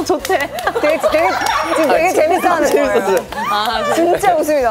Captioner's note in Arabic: ضحكة هاي إن الفعلية